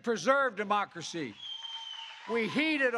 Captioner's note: applause